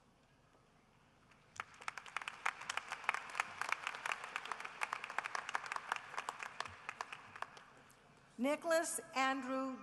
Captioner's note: applause